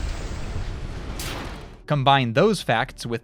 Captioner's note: robot explodes